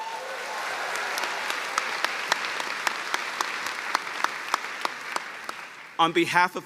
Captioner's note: cheers and applause